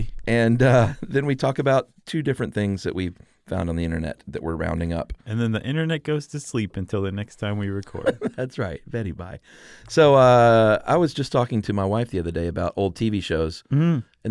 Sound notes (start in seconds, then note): 7.8 laughs